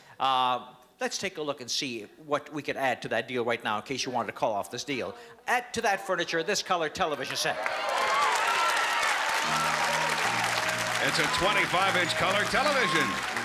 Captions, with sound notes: Let's take a look and see what we could add to that deal right now, in case you wanted to call off this deal. Add to that furniture this color television set. [APPLAUSE AND CHEERING] - It's a 25-inch color television with wireless